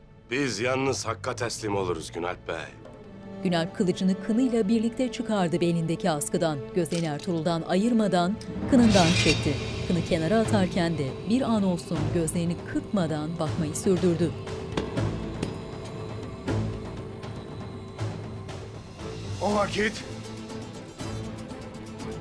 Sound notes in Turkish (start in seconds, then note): 8.4 Kılıç sesi